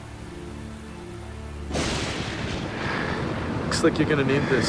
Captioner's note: thunder rumbles